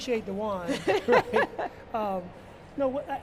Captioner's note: laughs